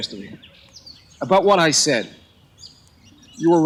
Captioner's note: bird cawing